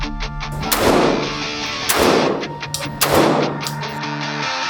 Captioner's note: gun firing